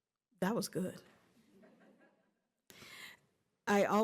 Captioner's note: laughter